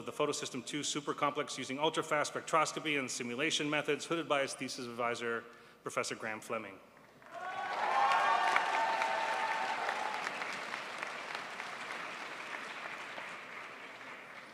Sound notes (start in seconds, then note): 8.9 crowd applauds